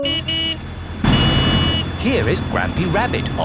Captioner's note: honking